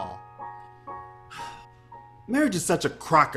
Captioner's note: Bill sighs